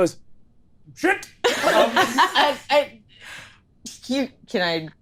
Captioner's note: all laughing